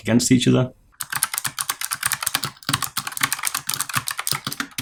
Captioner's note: keys clicking